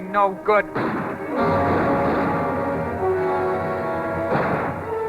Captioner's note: gunshots